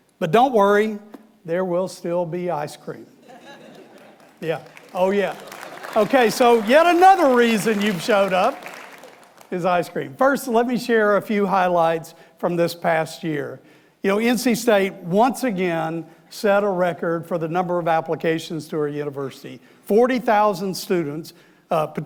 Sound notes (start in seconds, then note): 3.7 audience applauding